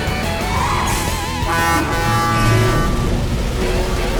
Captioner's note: horn honking